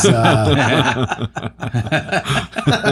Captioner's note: laughing